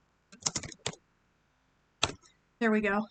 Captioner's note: type type